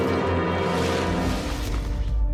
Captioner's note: dramatic Music; bushy Sounds